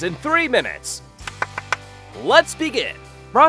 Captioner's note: clapping